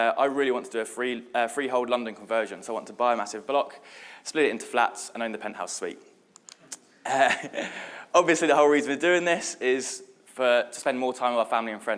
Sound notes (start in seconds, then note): 6.6 audience laughing; 7.1 laughs